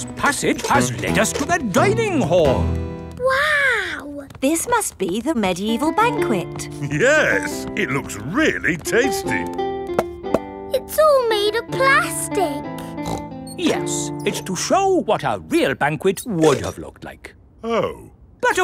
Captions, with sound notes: This passage has lead us to the dining hall. Wow! This must be the medieval banquet. Yes! It looks really tasty! (HOLLOW TAPS) It's all made out of plastic! (SNORTS) Yes, it's just to show what a real banquet would have looked like. Oh.